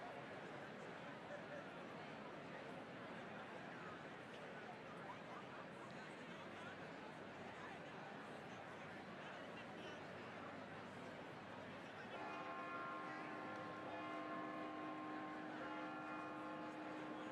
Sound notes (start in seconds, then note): 3.7 attendees chattering continues; 12.1 attendees cheering; 12.1 bell clanging